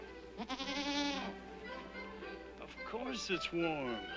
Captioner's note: goat bleating